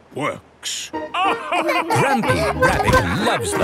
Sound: all laugh

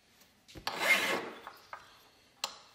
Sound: grinding noises

